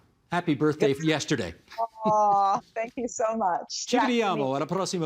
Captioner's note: speaking in italian